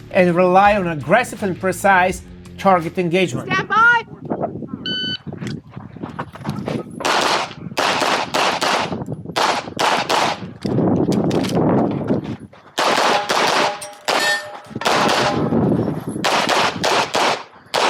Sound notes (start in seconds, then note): 4.7 wind howling; 4.9 machine beeping; 7.0 gunshots banging; 10.6 gun clicking; 12.8 gunshots banging